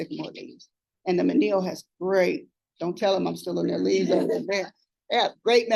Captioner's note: laughter